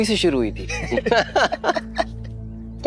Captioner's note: chuckling